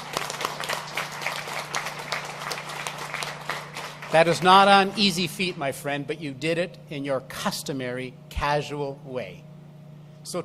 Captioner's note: applause